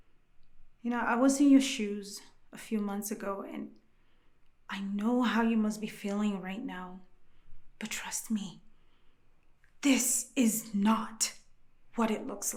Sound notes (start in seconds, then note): none